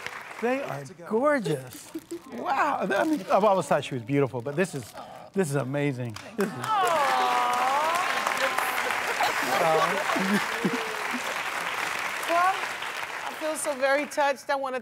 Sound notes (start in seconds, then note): 8.1 applause